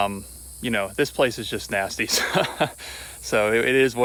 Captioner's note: laughing